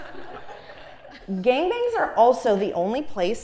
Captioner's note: laugh